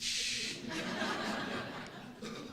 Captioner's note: laughs